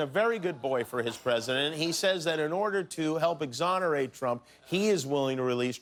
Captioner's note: laughter